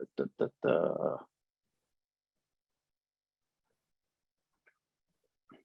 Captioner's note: speaking in gibberish